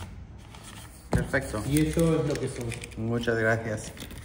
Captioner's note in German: auf Spanisch